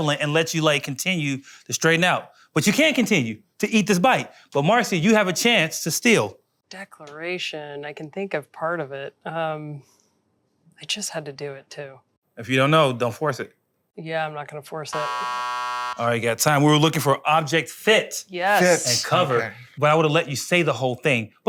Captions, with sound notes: and let you like continue to straighten out. But you can continue to eat this bite, but Marcy, you have a chance to steal. Declaration, I can think of part of it. I just had to do it too. If you don't know, don't force it. Yeah, I'm not gonna force it. (buzzer) All right, you got time. We were looking for object fit. Yes. Fit. And cover. But I would have let you say the whole thing.